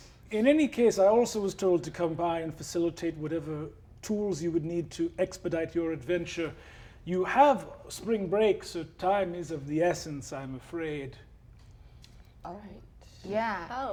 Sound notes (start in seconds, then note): none